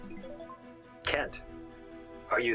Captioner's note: laptop chiming